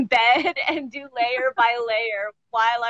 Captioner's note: laughs